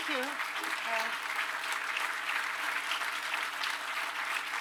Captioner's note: applause